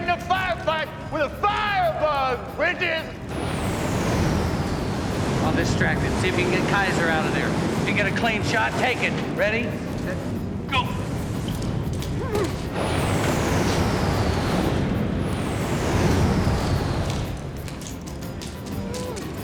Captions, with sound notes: Never get in a firefight with a firebug, Bridges! I'll distract him. See if you can get Kaiser outta there. If you get a clean shot, take it. Ready? Yeah. Go! (Bridges whimpers)